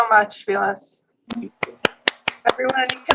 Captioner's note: clapping